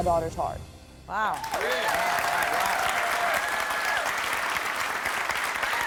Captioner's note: audience cheering